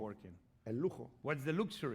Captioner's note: speaking spanish